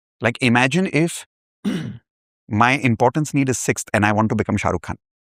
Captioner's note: clears throat